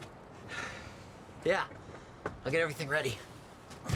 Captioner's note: sighs